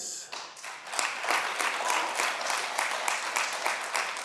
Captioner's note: audience applauding